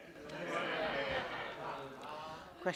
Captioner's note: laughter